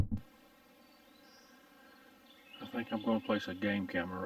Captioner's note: birds chirping